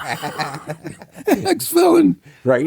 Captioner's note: laughter